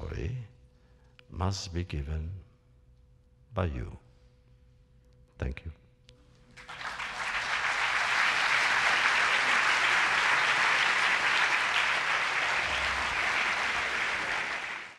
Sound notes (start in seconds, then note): 6.5 applause